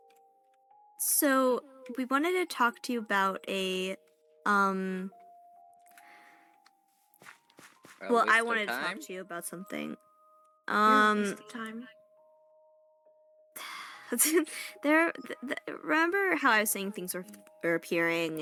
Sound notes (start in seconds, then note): 13.6 sigh; 14.0 giggle